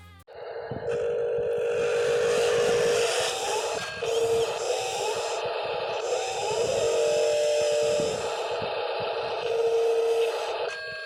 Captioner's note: engine sounds